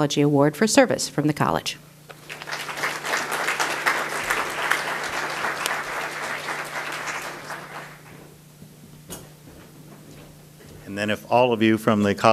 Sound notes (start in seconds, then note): 2.1 audience applause